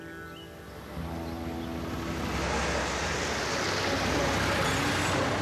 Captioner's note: motorcycle engine